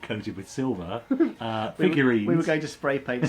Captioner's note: laughs